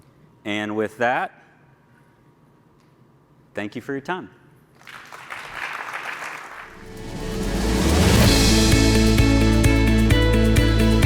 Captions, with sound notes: And with that, thank you for your time. (audience applauds) (upbeat music)